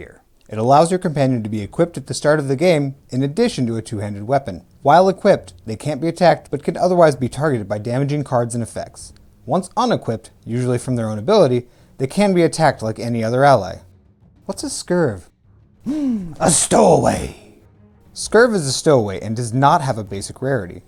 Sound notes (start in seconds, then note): 15.8 gasp